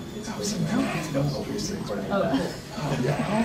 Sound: murmuring

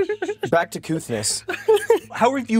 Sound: more giggles; giggles

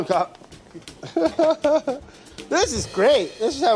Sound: laughs

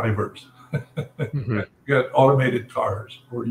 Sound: laugh

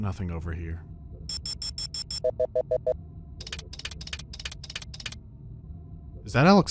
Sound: clicking and beeping

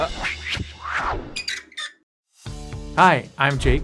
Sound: all laughing; sign creaking

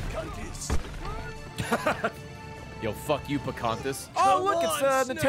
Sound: laughs

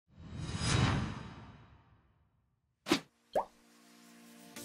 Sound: graphics whooshing

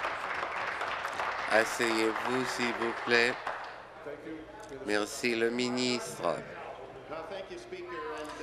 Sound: applause

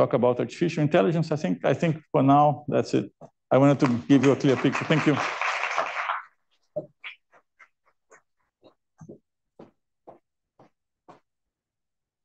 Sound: applause

